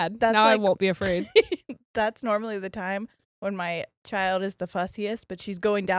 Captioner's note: giggles